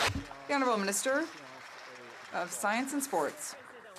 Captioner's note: some Applause